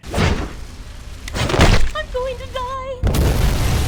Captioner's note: Spider-Man whips; Spider-Man thuds; explosion rumbling; glass shattering